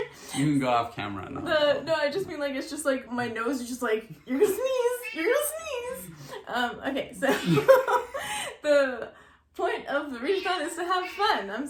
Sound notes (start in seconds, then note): 0.0 laughes; 0.0 laughs; 7.6 several meows